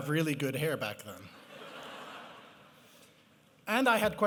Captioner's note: laughter